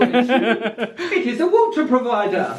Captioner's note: laughs